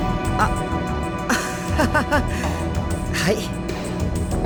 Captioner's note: awkward laugh